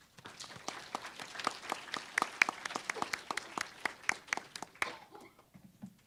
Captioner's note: applause